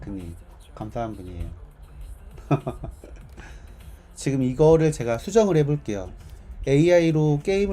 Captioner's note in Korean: 웃음